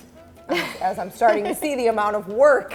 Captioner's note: laughs